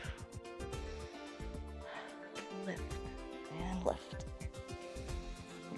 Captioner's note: inhales and exhales